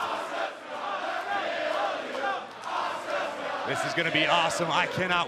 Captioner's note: crowd cheering